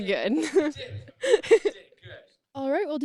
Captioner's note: laughs